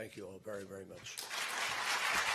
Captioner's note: applause